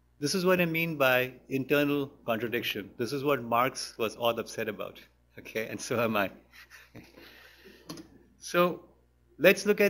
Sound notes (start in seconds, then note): 6.5 laughs; 6.5 laughter